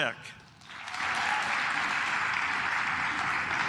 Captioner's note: claps